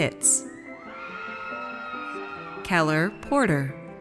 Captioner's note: audience cheers